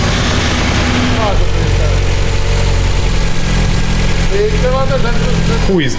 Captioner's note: sucking some false air